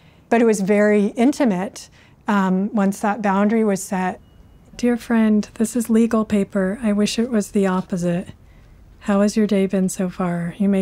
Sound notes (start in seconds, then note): none